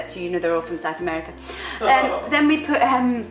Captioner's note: laughs